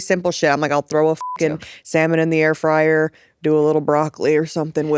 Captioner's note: beep